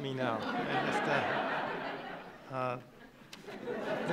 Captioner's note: laughing